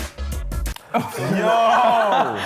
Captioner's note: laughing